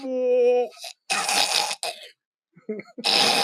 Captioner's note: throwing up sound